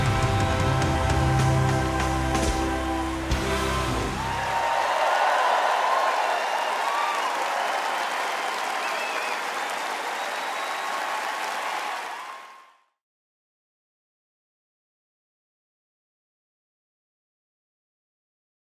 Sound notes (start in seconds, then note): 3.4 song ends; 5.4 audience applause